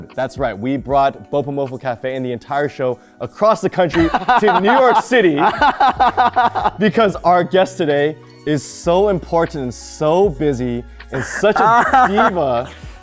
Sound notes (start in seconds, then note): 3.9 Ronny laughing